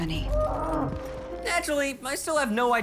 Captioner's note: groans